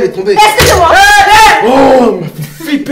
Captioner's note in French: Ils crient